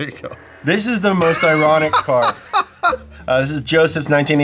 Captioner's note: laughs loudly